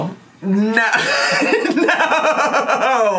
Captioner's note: laughing